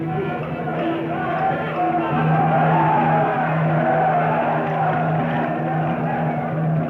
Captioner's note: tribesmen chanting; drum beating